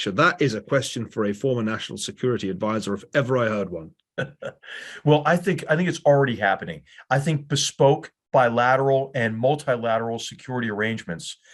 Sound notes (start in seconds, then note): 4.1 laugh